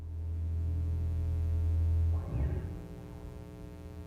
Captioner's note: electric buzzing